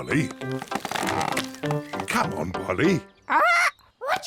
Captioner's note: tree creaks